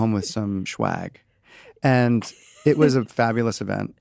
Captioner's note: chuckles